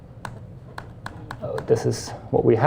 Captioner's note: keys tapping